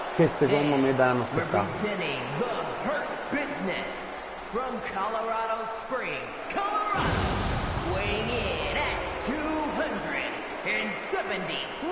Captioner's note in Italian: Applauso